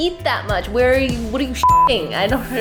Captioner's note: beep